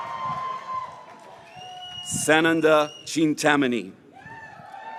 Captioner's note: graduates cheering